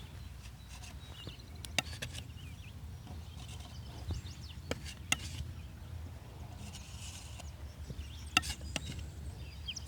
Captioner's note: birds chirping